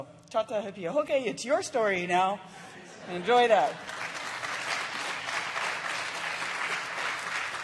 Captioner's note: applause